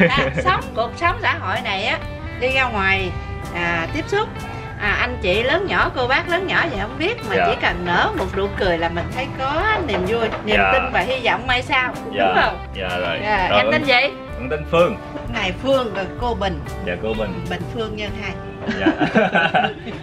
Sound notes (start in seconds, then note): 18.6 laugh